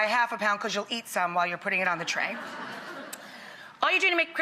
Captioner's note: audience chuckles